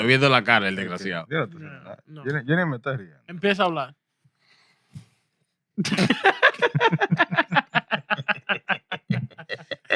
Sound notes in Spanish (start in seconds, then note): 1.6 Hablando en idioma extranjero; 1.6 Riendo